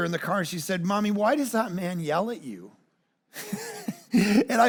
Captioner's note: laughs